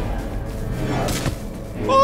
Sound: arrow whizes

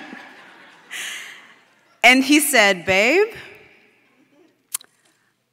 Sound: laughter

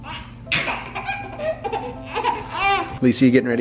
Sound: laughing

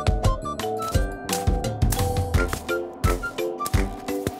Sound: ice crunches

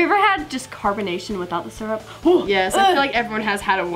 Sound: gagging

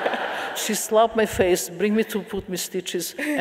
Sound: audience laughing

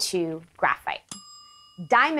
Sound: dinging noise

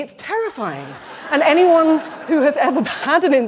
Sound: laughter

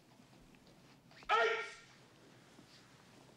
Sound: Johnny uttering karate cries

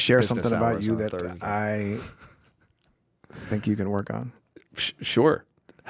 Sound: chuckling

